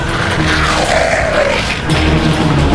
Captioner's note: all ems growling